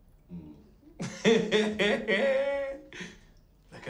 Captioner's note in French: des rires